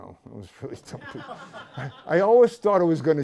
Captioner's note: laughter